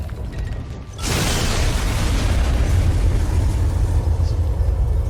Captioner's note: explosion booms